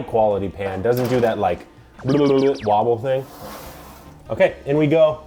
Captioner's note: burbles